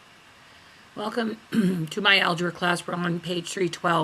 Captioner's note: voiceover